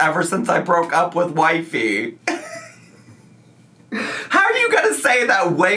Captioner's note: laughs